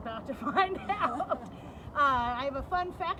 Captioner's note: chuckles